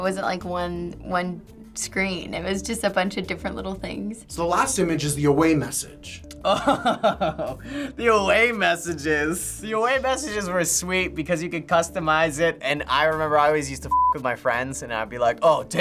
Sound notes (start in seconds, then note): 6.4 laughs